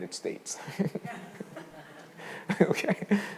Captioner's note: all laughing